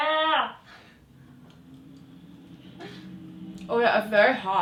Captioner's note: laughing